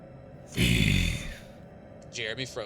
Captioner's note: Demonic voice